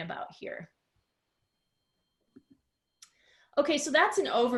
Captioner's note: silence